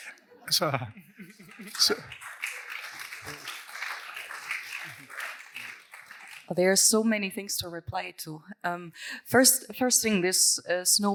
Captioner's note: applause